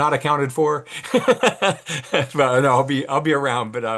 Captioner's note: laughs